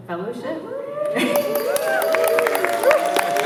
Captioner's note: cheering